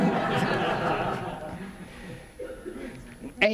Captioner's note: audience laughing